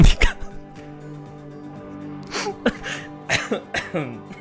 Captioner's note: holding back laughter